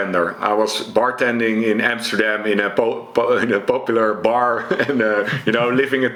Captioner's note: chuckles